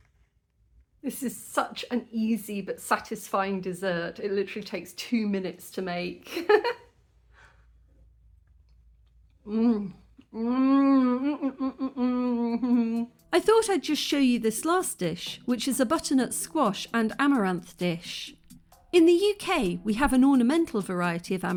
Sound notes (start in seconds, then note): 6.3 laughing; 9.5 very happy mouth noises